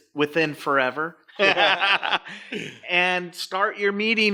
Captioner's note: laughing